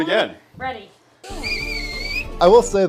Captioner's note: whistle